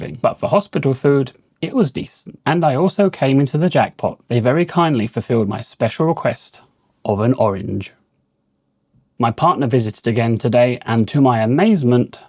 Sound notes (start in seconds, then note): none